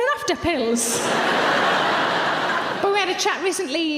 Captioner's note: audience laughs